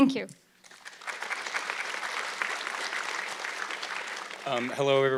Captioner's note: audience clapping